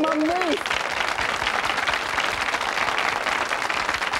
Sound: audience applauding

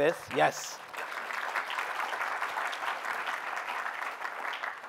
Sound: applause

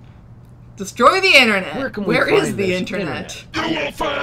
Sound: laughs

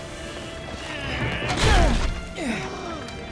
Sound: grunting

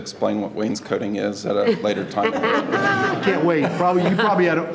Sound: board laughing

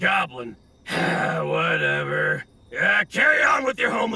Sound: sighs

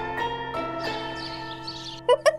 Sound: pleasant music; birds chirping; laughs

